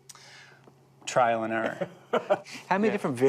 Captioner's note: laughs